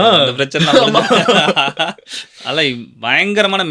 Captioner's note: laughter